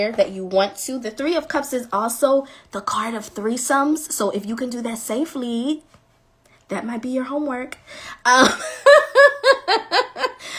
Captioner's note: laughing